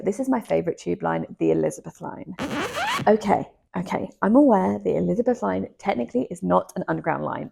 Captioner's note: cut sound